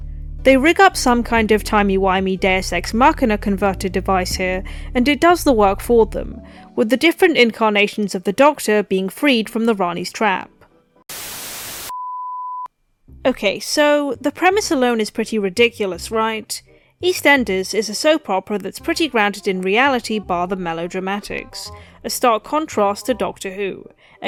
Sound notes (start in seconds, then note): 11.1 static